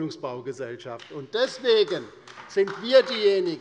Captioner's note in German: Beifall bei der LINKEN